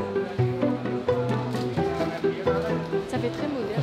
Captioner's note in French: bruits du marché